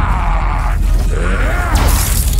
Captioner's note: growls